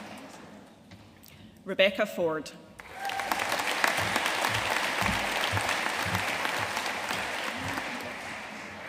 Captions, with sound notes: Rebekah Ford. (AUDIENCE CHEERING AND APPLAUDING)